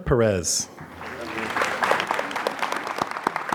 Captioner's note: applause